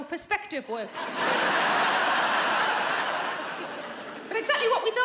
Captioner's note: audience laughing